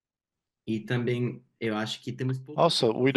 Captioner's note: speaking Portuguese